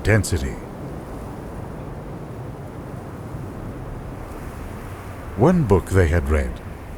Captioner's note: water crashing